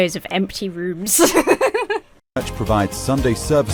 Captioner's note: laughs